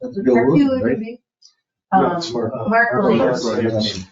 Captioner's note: people chattering